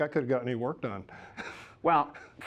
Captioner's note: laughs